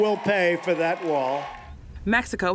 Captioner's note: cheering and applause